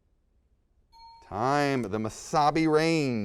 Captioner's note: bell dings